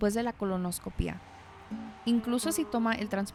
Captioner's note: Vehículos pasan cerca